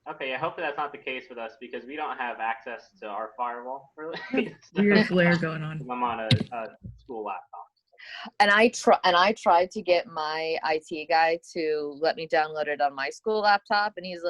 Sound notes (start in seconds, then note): 4.0 laughs